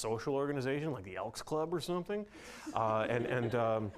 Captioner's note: audience laughing